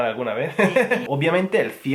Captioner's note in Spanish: ríe